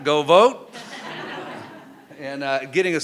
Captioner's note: crowd laughing